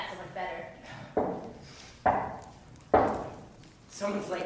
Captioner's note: knock...knock...knock